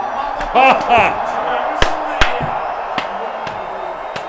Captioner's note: Hogan laughs